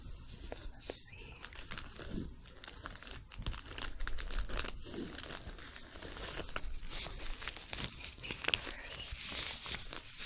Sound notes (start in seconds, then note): 1.6 crinkling, shuffling